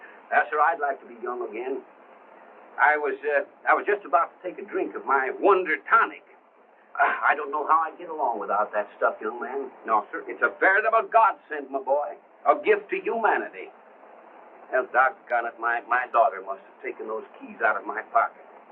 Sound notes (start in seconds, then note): none